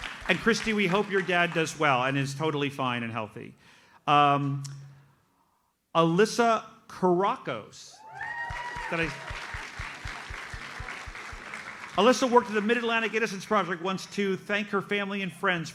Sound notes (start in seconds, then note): 0.0 audience applauds; 8.0 audience cheers and applauds